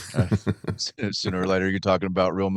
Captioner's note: laughing